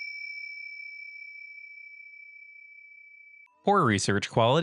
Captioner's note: ding